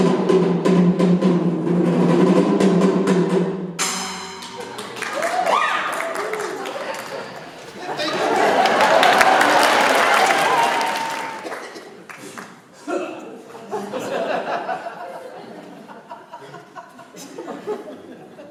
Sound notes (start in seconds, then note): 10.3 they applaud and laugh; 12.0 SCYNTHIUS scoffs; 12.8 laughter